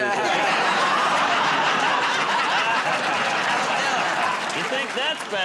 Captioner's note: laughter